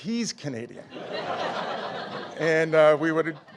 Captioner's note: audience laughing